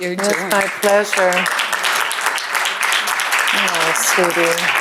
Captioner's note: applause